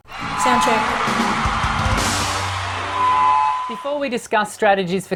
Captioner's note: audience cheers